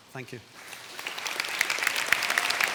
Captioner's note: applause